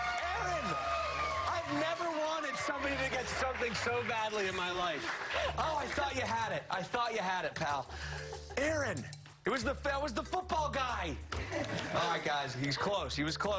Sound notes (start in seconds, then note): 9.6 laughter